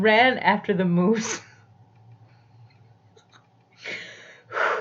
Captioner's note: laughs